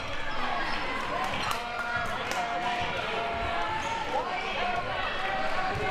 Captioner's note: audience chattering and yelling